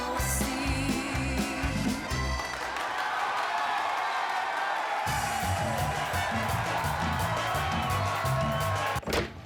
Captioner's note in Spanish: aclamaciones